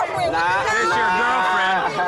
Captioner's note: laughs